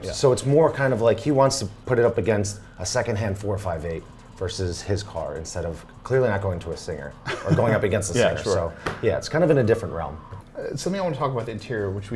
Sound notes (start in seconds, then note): 7.2 laughs